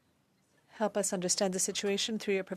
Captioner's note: speaking French